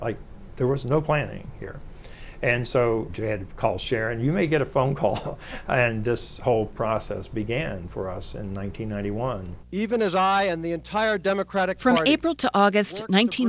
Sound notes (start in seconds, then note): 5.0 chuckles